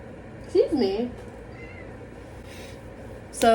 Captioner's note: meow